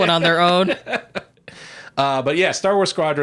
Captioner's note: laughing